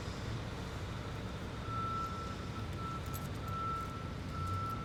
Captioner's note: heavy equipment beeping